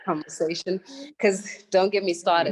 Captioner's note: laugh